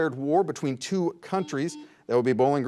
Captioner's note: buzzer buzzes